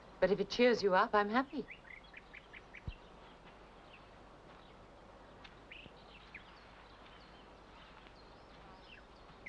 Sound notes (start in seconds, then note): 5.3 bird chirps